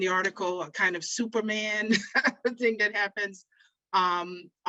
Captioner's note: chuckles